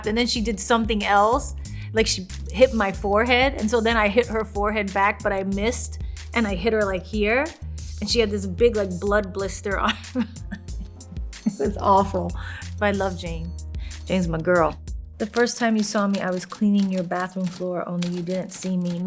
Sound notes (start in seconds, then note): 11.4 laughing